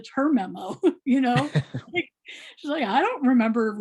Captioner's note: laughing